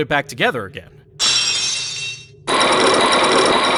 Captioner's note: lock shatters!; chains grinding!